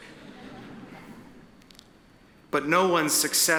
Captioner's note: attendees chuckle